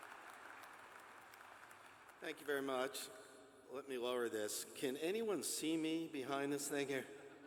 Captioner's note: applause